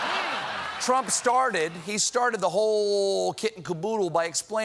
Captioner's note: laughter